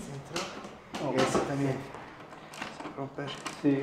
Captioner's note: in Spanish